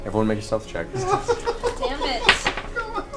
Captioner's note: all laugh